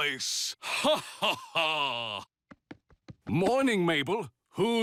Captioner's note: hearty laugh